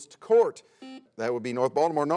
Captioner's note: buzzer sounds